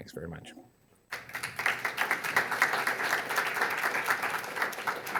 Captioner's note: audience applauding